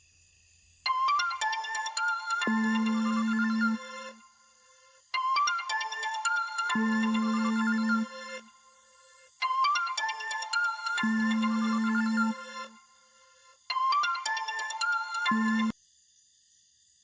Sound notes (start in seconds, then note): 0.9 cellphone rings; 10.3 cellphone continues ringing